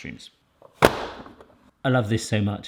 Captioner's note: slamming